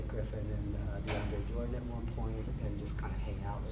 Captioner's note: banging drowns out speaker